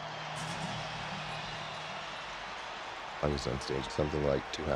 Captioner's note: audience cheering